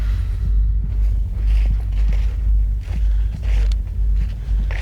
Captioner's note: grass crunching